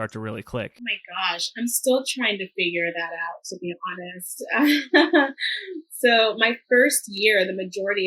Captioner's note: laughs